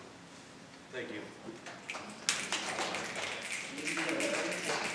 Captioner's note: audience snapping